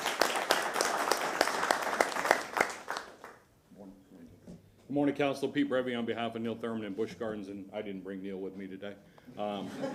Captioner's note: applause